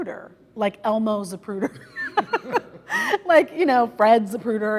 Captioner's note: laughter